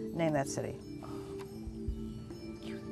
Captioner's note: whispering